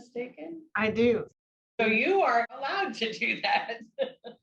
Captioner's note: laughs